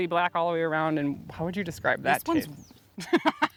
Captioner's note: laughing